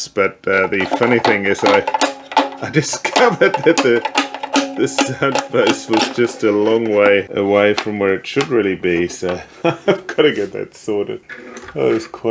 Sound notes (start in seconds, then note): 2.7 laughs; 9.4 laughs